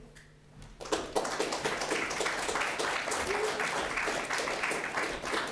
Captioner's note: audience applauding